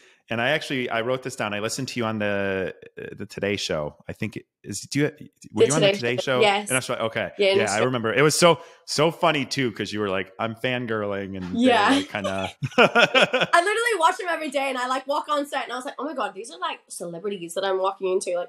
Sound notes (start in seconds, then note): 12.8 laugh